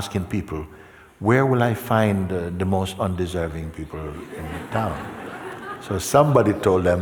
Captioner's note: laughter